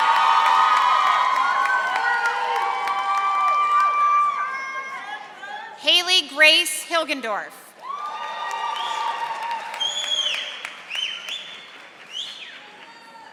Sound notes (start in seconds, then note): 0.0 audience applauding and cheering; 7.8 audience applauding